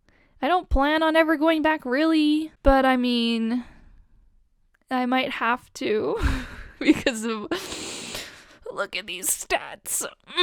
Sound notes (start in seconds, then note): 7.5 inhale